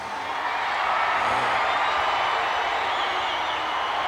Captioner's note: crowd cheering